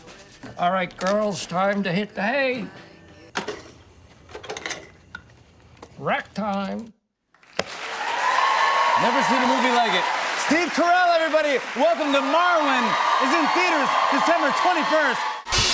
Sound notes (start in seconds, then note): 3.4 music stops; 7.4 cheers and applause